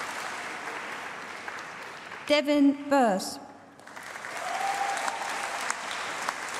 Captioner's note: applause